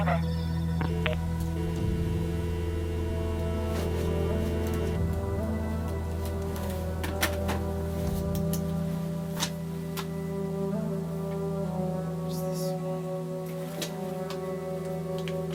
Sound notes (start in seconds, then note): 0.8 telephone humming